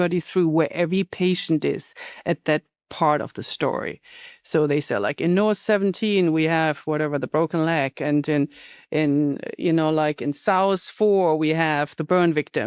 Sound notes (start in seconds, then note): none